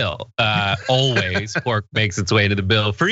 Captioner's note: laugh